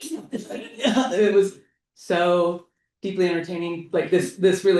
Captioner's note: laughs